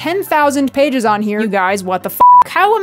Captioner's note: beep